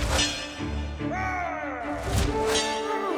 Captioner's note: metal clanging; gravelly male voice yelling; dramatic orchestral music